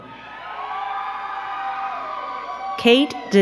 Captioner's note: crowd cheering and clapping